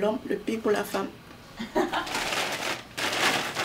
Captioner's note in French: rire